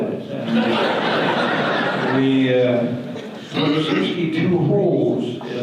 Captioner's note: audience laughter